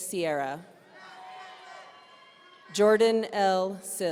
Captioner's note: audience cheering